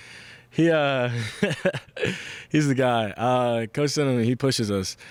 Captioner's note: laughs